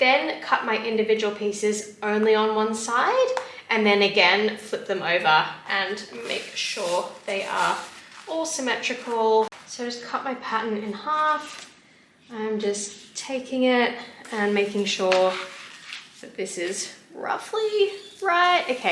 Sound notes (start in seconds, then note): none